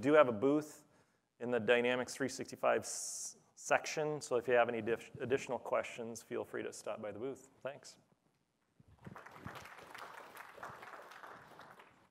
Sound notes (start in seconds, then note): 8.9 applause